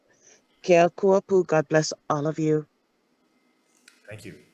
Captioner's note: speaks in foreign language